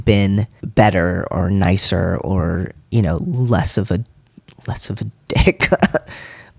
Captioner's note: laugh